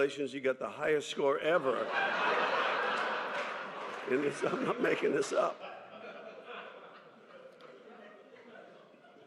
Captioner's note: laughter